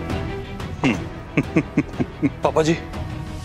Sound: laughing

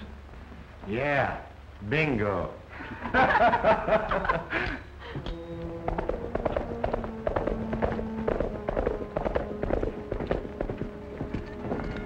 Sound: laughter

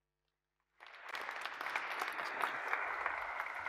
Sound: applause

